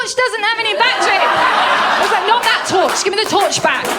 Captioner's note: laughter